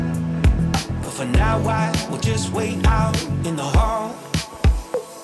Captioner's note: wind blowing